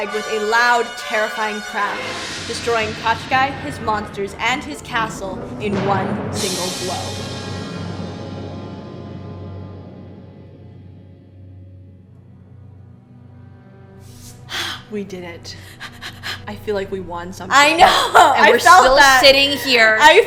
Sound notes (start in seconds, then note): 14.3 gaspgaspgasp